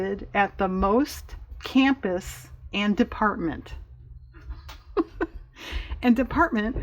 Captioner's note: laughs